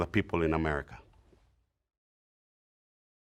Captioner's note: silence